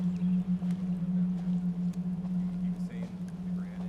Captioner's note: overlapping chatter